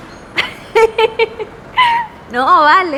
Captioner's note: laughs